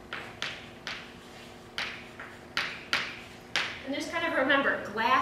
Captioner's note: chalk writing on chalkboard